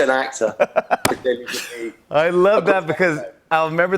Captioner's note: laughs